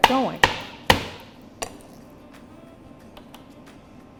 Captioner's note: knife banging